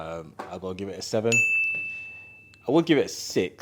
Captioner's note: bell dinging